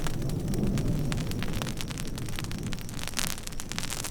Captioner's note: fire sizzling